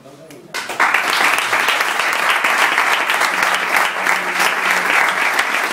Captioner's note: applause